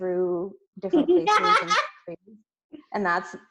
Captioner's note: laughs